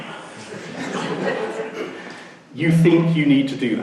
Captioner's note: laughing